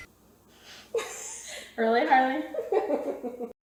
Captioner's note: laughing; laughs